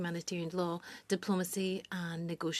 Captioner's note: speaking French